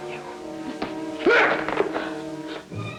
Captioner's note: yelps; dramatic instrumental music